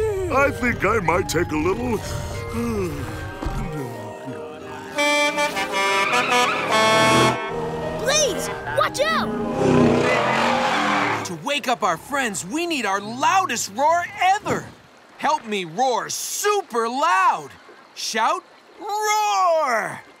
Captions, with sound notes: I think I might take a little... [yawning] [truck horn honking] Blaze, watch out! To wake up our friends we need our loudest roar ever! Help me roar super loud! Shout, roar!